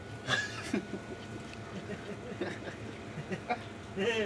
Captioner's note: hunters laughing